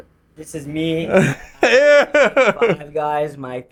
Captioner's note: laughing